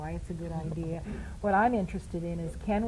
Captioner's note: laughter